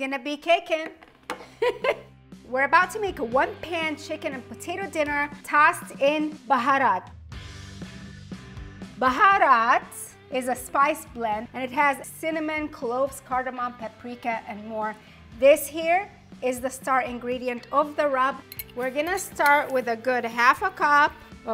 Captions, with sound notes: - This chicken is gonna be kickin'! (giggles) We're about to make one-pan chicken and potato dinner tossed in Baharat. (upbeat rock music) Baharat is a spice blend and it has cinnamon, cloves, cardamon, paprika, and more. This here is the star ingredient of the rub. We're gonna with a good half a cup